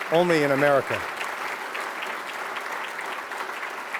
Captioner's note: applause